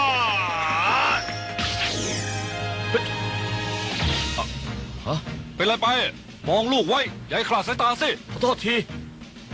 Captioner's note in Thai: ปรบมือ